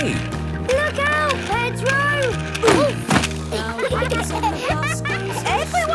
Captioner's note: laughter